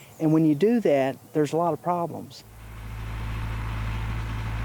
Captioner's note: machinery whirring